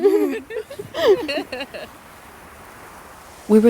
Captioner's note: both giggle